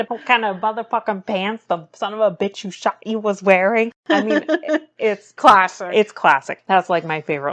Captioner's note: laughs